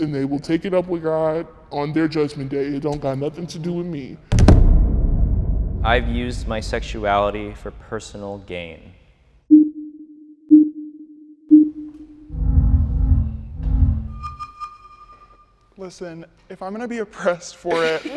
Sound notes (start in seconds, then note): 4.3 audio thumping; 9.3 countdown chiming; 13.8 audio beeping